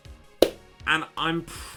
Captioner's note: scarily loud clap